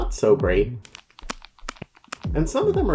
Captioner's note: phone clacking